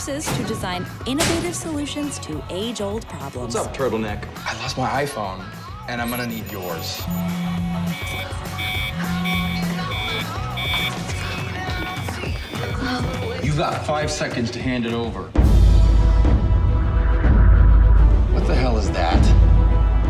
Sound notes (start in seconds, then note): 6.8 cell phone buzzing; 7.7 alarm blaring; 15.4 dramatic music